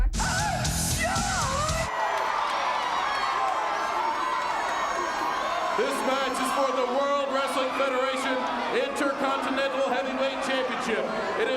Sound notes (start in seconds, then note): 2.4 audience cheering